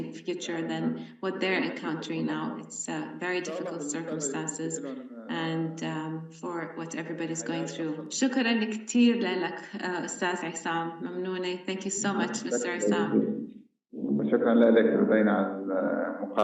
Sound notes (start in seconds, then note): 8.2 speaking arabic